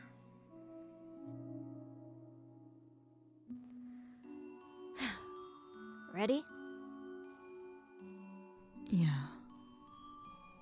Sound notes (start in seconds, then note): 5.9 huff